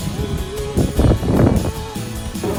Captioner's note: wind sound